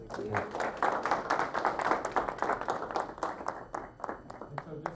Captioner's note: applause